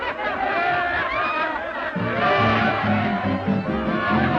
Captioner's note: all laughing; gentle orchestral music